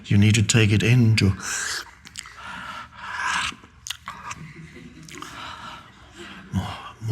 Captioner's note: Eckhart slurping; audience chuckling